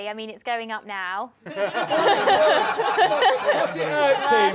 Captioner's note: laughter